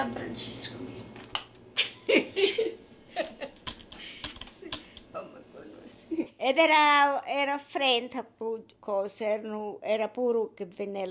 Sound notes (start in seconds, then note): 6.2 speaking in foreign language